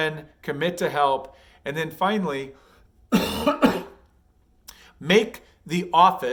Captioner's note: coughs